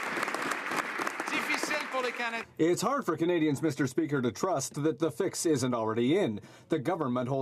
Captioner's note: some Applause